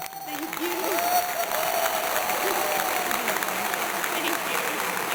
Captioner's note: applause